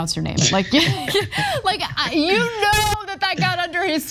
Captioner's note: laugh